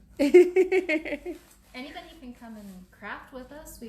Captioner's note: laughs